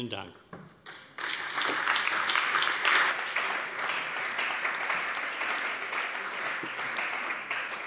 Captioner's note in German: Allgemeiner Beifall